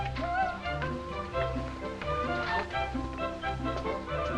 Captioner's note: Pandora humming